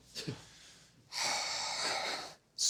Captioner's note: sighs